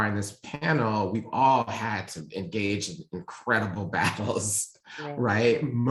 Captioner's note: laughing